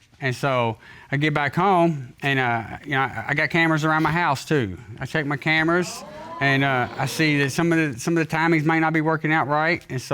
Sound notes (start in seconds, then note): 5.4 audience exclaiming